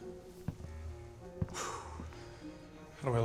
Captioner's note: sighs